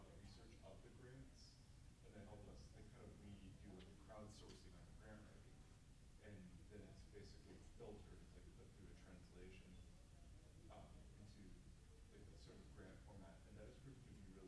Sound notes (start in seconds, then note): 3.0 static buzzing drowns out speaking; 7.6 mutters; 9.8 static buzzing drowns out speaking